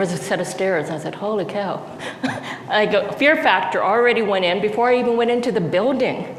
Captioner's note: laughs